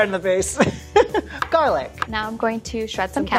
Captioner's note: laughs